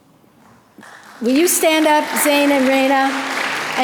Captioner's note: audience applause